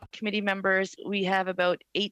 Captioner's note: speaking French